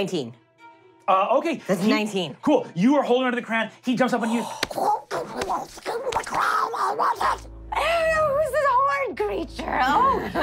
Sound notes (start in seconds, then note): 6.4 muttering evilly